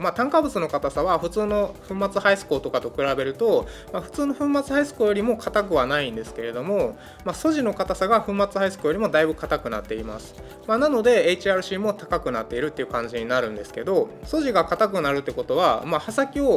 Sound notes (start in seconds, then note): none